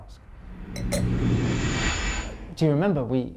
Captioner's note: glasses clink; memory images whooshing